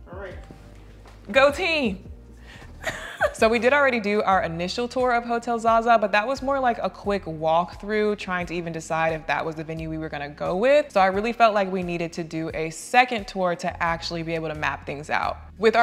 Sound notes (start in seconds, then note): 2.8 chuckling